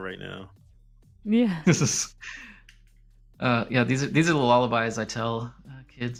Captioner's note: laughter